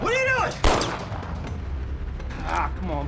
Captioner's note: gunshots continue